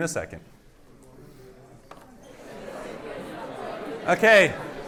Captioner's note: indistinct chatters